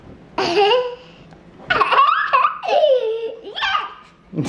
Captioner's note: giggles